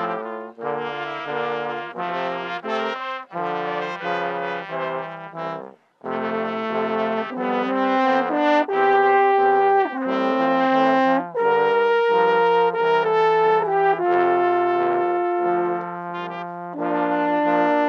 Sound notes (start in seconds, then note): none